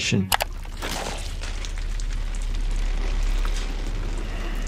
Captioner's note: blood splattering